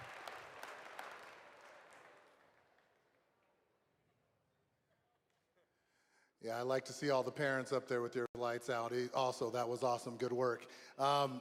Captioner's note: applause